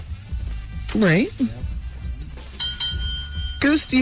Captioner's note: bell ringing